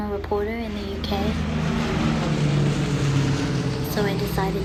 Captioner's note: plane engine roaring